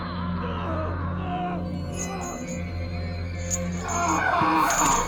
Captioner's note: groaning, anguished noises